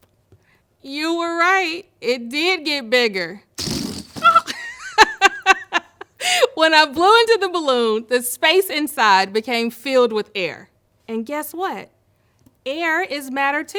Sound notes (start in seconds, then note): 3.6 ballon squeals; 3.8 chuckles